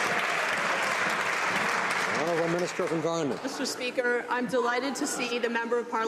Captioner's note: some Applause